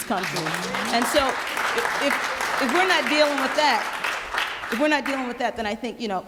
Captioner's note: applause